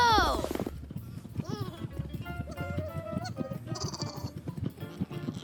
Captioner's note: hooves stomping; sheep bleating